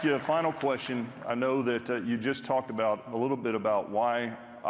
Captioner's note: applause